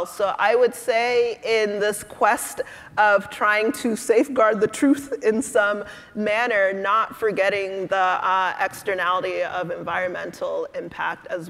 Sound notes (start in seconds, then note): none